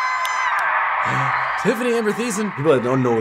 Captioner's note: gasps